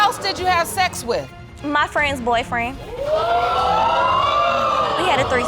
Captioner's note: audience exclaiming